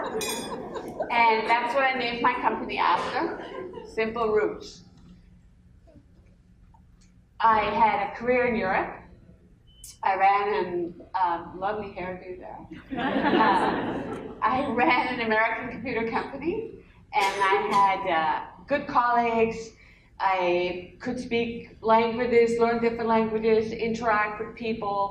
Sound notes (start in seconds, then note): 12.7 laughter